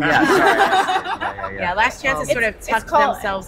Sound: laughter

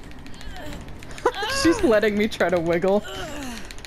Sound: laughs

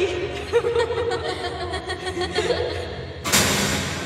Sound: both laugh

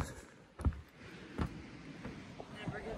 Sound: waves crash on shore

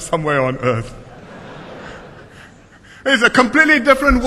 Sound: laughter

